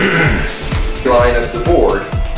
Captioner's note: clears throat